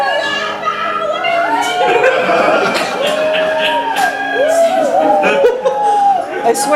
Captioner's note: laughter